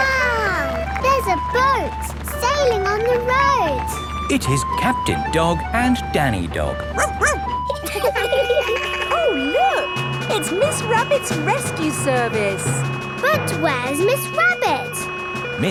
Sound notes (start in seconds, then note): 6.9 barks; 8.0 laughing; 8.0 sirens sounding